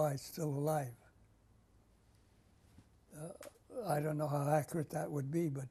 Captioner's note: pauses for 3 seconds